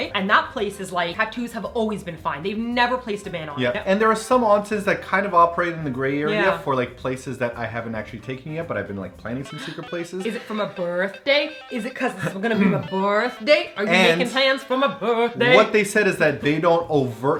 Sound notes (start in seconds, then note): 10.0 gasp